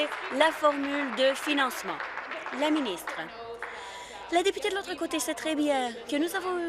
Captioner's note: applause